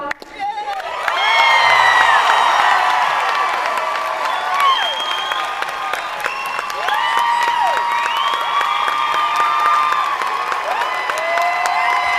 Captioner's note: applause